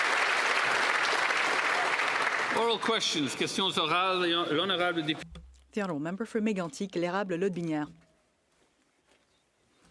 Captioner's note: applause